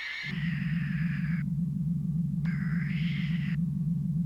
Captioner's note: deep whirring